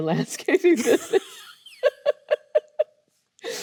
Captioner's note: both laughing